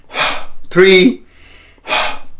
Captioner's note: inhaling and exhaling